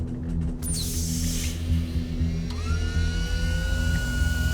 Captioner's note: door hissing